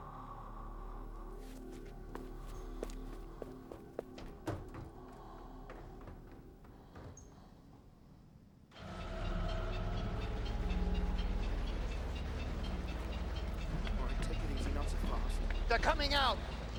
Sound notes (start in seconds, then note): 8.9 churning Sound</i> <i> Continues